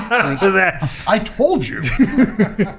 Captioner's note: laughing